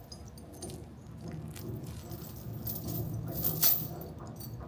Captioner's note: chain clanking